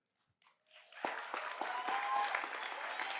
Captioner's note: cheers and applause